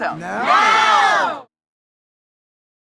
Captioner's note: multidão